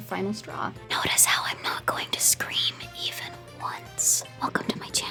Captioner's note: whispered